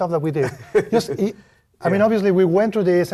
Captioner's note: laugh